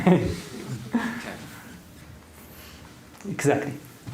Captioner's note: laughter